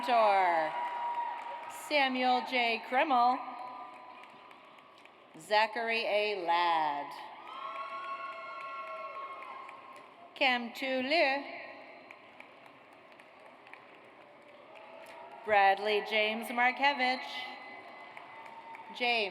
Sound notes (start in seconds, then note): 0.2 audience cheers; 3.9 audience applauds; 7.4 audience cheers; 12.1 audience applauds; 17.8 audience applauds